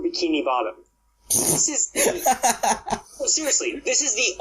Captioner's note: bursts out laughing